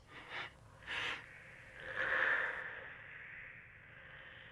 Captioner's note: snake hissing